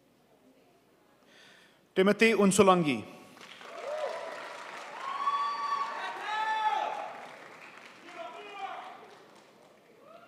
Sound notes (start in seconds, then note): 3.3 crowd applauds